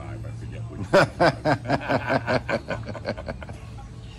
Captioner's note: laughs